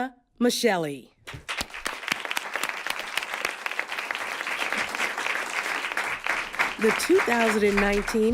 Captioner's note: applause